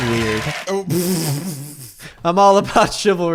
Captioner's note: laughs